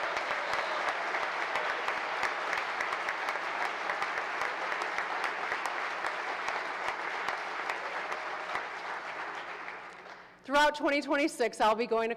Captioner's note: applause